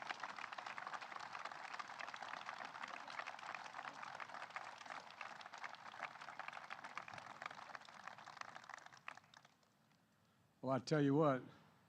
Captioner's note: applause